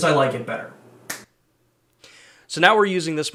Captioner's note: fingers snapping